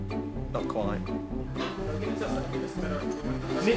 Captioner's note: background chatter